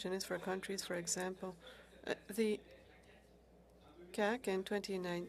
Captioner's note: speaking French